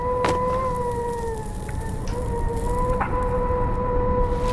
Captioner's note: thud; alien skyfish echo